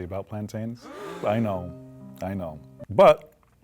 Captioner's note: canned gasps